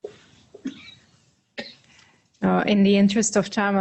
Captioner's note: coughing